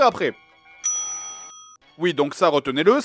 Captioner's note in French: ding